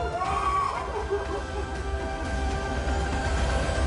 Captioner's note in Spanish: Gritos